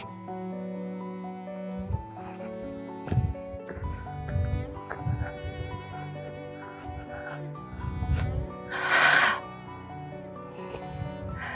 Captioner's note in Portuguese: risadas